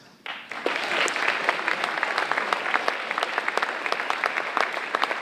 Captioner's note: audience applauding